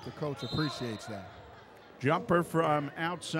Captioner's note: whistle blows